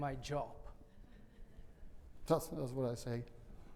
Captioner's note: audience laughing